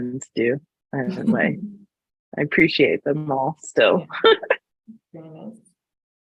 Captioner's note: laughs